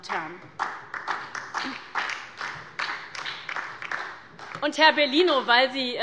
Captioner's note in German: Beifall bei Abgeordneten der SPD und der LINKEN